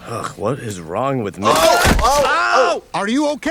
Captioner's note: Bob crashing